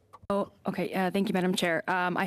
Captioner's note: speaking French